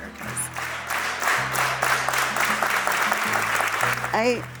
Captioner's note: crowd applauds